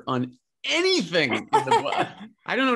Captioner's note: laughing